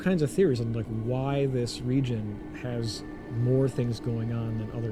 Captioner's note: wind noise